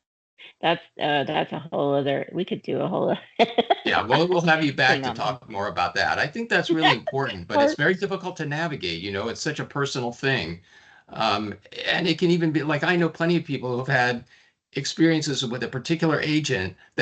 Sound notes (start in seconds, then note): 3.3 laughing; 6.1 chuckling